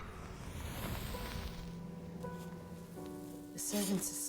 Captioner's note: sizzling